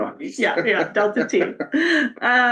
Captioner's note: laughs